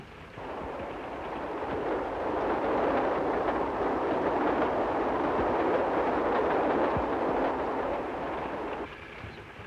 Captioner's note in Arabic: هدير القطار; صوت خشخشة القطار